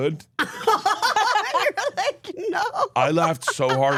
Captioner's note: laughs